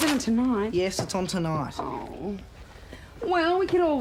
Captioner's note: moans